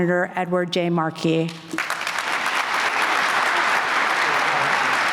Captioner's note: applause